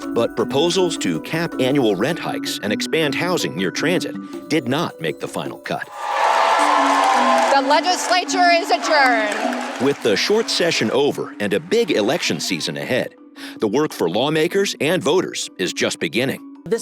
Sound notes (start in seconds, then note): 5.9 cheers and applause